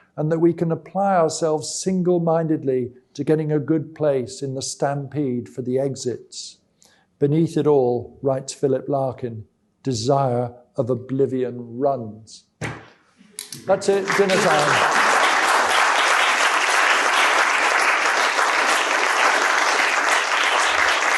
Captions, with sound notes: and that we can apply ourselves single mindedly to getting a good place in the sTAMPEDE for the exits. Beneath it all, writes Philip Larkin, desire of oblivion runs." That's it. Dinner time. [APPLAUSE]